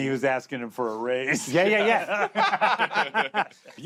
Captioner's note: laughter